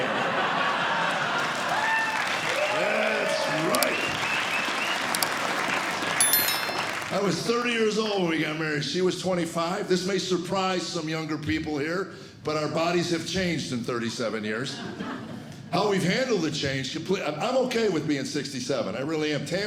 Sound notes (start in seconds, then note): 0.0 laughter; 1.5 crowd cheering